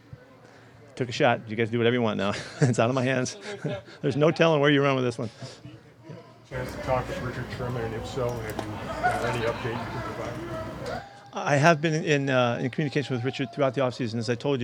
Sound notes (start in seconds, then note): 3.2 laughs